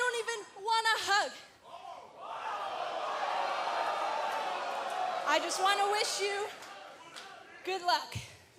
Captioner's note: cheers & jeers